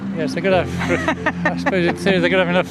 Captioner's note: lady laughing